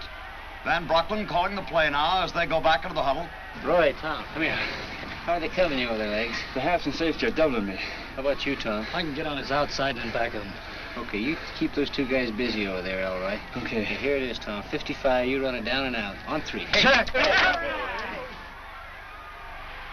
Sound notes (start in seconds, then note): 15.5 players yell